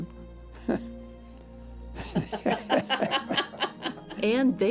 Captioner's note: laughter